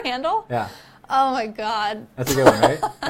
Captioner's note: laughs